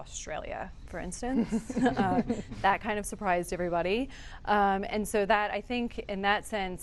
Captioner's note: laughter